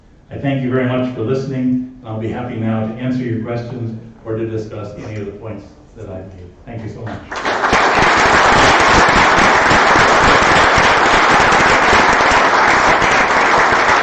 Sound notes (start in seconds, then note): 7.0 applause